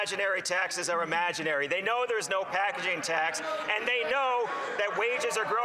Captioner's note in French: voix de l'interprète; voix de l'interprète